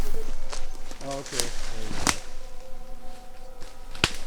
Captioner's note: objects snapping